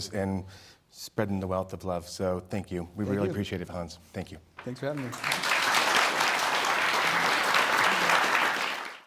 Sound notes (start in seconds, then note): 4.8 audience clapping